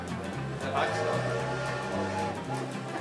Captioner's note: train whistle blowing